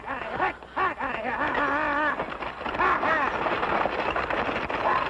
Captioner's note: coachman yells to horses; horse hooves